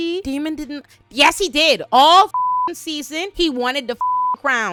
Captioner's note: beep